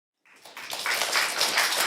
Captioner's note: applause